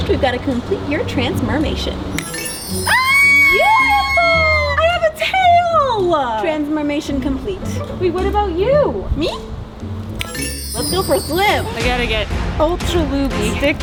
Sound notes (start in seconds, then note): 2.2 magic shimmering; 2.8 cheering